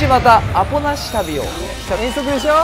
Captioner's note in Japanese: gong～0:41